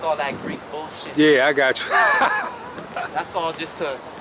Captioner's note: laughs